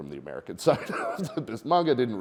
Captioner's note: chuckles